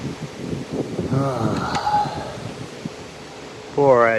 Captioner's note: heavy sigh